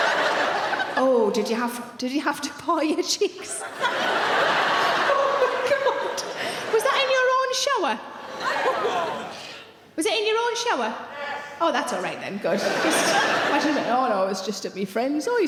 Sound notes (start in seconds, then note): 3.4 audience laughing; 8.2 audience laughing